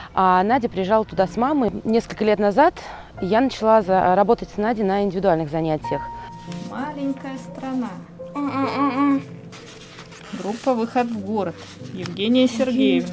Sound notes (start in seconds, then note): 8.3 murmurs